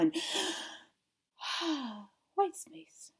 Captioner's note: breathing